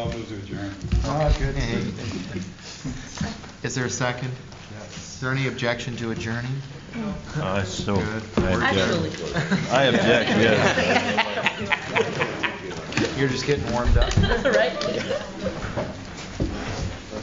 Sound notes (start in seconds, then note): 13.6 laughter